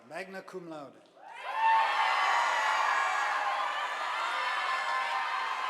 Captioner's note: audience applauding